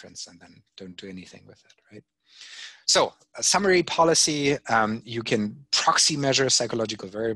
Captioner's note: none